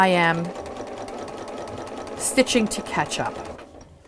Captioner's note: sewing Machine Sounds